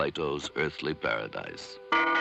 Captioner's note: pealing